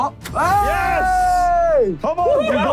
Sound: group exclaiming

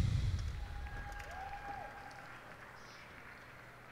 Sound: cheers and applause

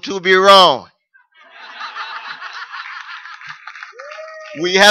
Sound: laughter

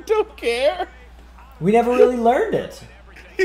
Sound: laugh

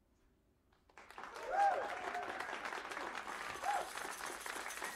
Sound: cheers and applause

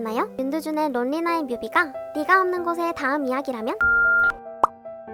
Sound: beep

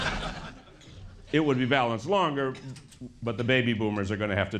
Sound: laughter

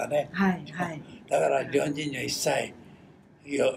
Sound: foreign language

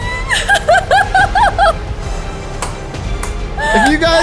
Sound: laughs

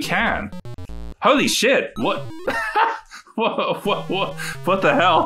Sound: laughs

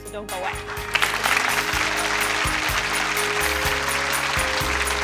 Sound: audience applauds; soft music

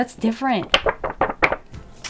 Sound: tik-flip-flop-flip-flop

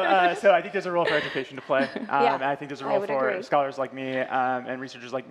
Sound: laughter

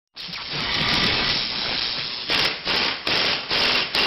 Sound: drilling sounds

